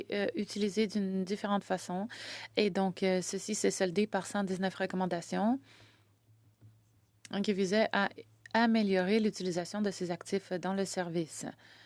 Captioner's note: speaking French